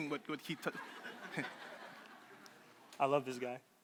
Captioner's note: crowd laughing